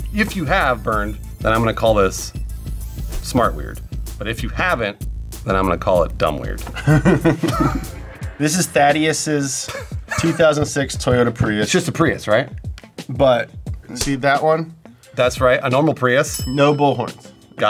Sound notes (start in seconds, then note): 6.7 laughs